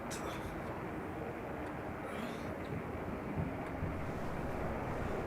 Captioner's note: wind howling